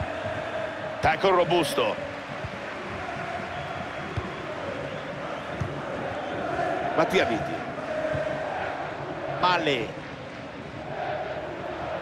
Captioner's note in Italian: Applauso